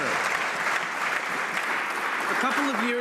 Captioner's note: some Applause